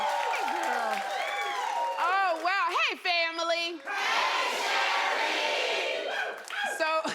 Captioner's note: cheers and applause